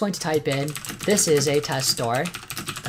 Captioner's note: typing